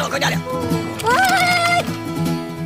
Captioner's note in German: schreit